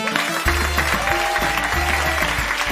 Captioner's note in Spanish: Aplausos